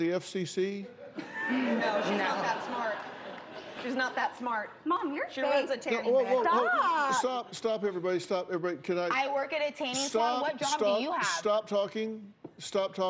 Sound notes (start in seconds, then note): 0.9 laughter